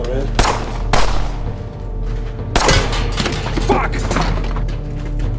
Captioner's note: speaking Spanish; gunshots boom; suspenseful music